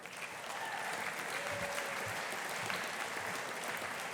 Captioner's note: audience applauding